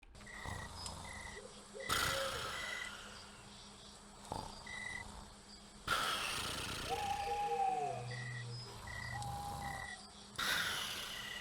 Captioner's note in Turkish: Horlama sesi